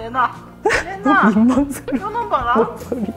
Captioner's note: begging